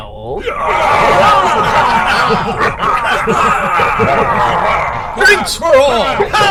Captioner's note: Klingon laughter and cheers